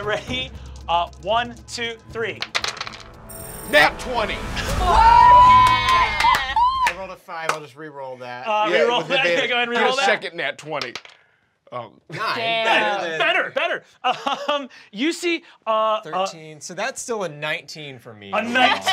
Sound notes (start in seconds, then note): 4.6 cheering